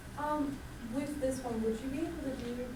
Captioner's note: voiceover